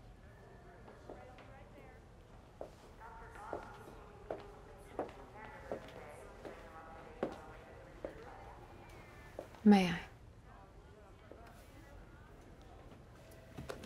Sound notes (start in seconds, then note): 2.9 pa announcement